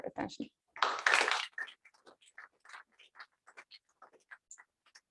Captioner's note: applause